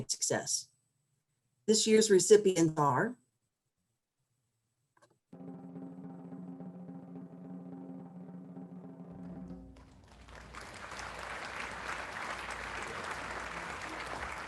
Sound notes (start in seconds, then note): 5.4 drum roll; 9.2 crowd applauds